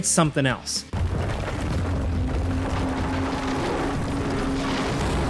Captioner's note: building crumbling